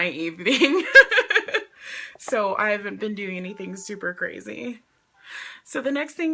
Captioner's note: laughs